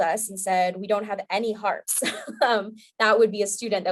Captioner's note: chuckling